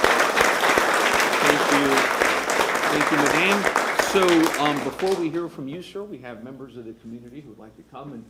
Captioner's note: applause